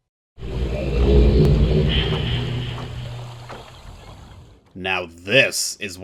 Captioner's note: age transition sound